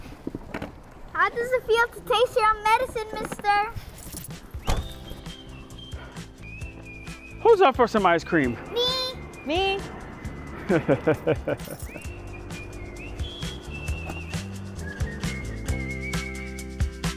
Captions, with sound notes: - How does it feel to taste your own medicine, Mister? (cheerful whistling) - Who's up for some ice cream? - Me! - Me! (captain laughing) (cheerful music)